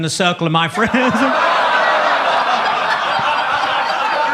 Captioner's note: audience laughs